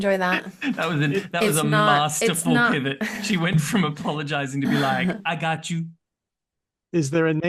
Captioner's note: laughs